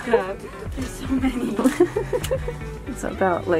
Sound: laughing

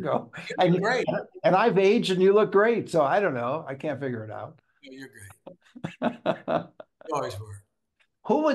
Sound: laughs

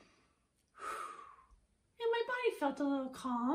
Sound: sighs

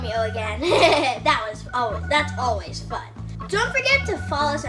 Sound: laughs

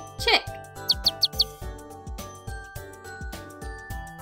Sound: chick chirping

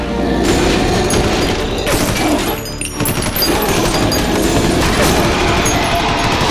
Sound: guns blasting; shells rattling

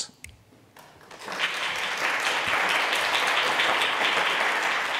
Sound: audience claps

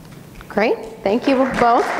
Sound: audience clapping

